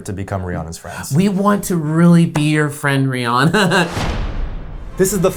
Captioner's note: laughs